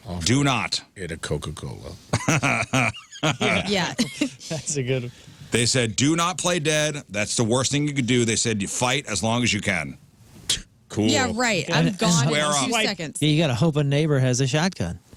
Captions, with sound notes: Do not. Eat a Coca-Cola. (Laughing) Yeah. That's a good one. They said, do not play dead. That's the worst thing you could do. They said you fight as long as you can. Cool. You gotta hope a neighbor has a shotgun.